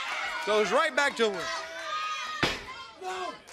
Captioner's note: crowd chatter